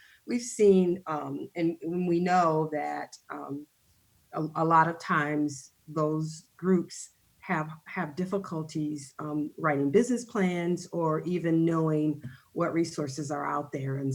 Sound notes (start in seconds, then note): none